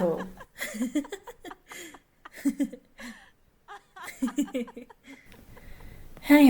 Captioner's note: Roxane and Ericka giggling and laughing